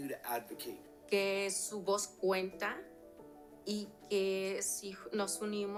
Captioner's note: speaking Spanish